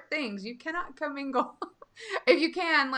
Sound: laughing

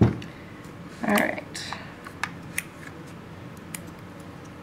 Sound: clipping sounds

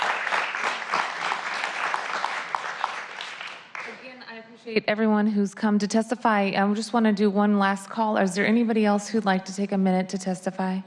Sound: applause

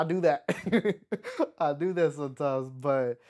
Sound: laughs

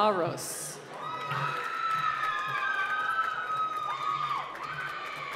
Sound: cheering and applause

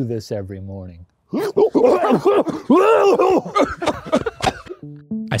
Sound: both coughing

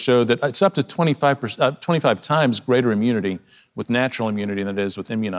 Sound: none

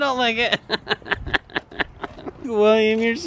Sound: laughing

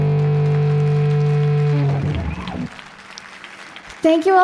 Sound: audience applauds

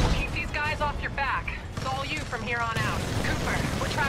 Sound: radio

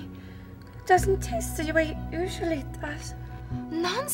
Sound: slurring

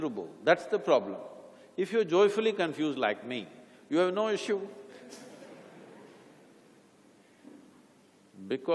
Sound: laughter

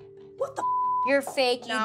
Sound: beep

